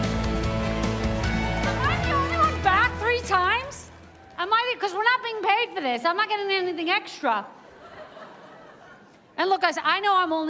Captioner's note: cheers and applause